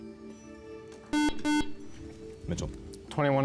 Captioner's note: buzzer